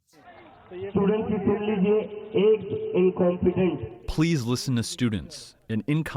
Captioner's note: through translator